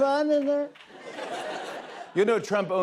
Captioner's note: laughter